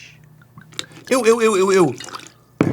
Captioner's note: bottle making pleasing glug sound